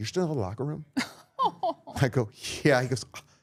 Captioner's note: laughing